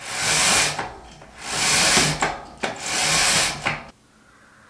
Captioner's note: curtains scrape